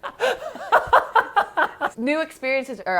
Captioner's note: laughing